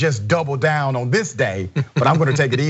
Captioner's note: laugh